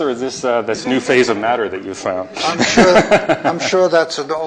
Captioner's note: chuckles